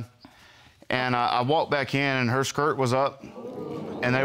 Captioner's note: audience gasping